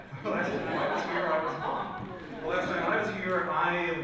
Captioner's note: audience laughs